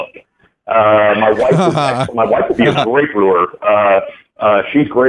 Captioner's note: laughs